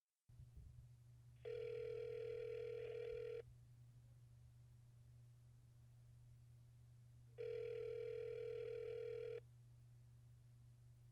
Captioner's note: phone ringing out